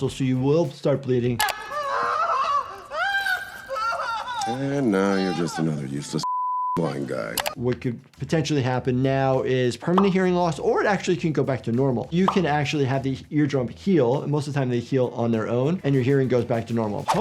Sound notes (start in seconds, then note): 1.5 person screaming; 6.2 beep